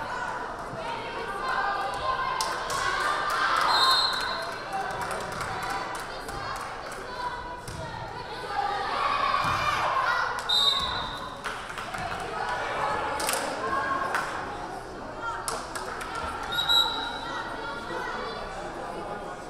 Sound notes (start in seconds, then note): 3.7 whistle blaring; 8.3 team members yelling; 10.5 whistle blaring; 11.9 crowd applauding; 16.5 whistle blaring